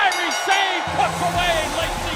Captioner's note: bell ringing